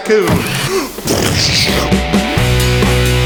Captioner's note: explosion sounds